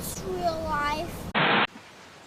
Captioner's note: static